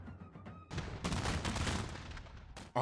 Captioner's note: gunfire